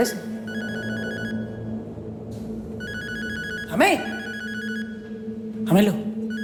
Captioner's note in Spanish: Suena el celular